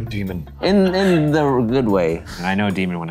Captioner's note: laughing